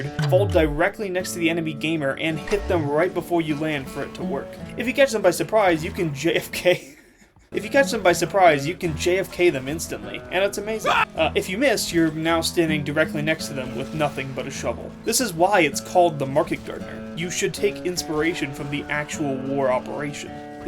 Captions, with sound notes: fall directly next to the enemy gamer, and hit them right before you land for it to work. If you catch them by surprise, you can JFK— [laughing] If you catch them by surprise, you can JFK them instantly. And it’s amazing. —[Soldier death sound] —If you miss, you’re now standing directly next to them with nothing but a shovel. This is why it’s called the Market Gardener: You should take inspiration from the actual war operation.